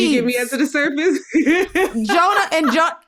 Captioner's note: laughs